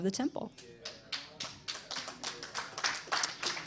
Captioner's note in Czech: potlesk